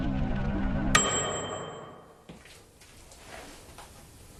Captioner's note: oven bell